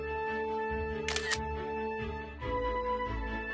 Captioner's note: camera shutter sound